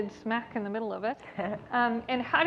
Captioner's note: laughs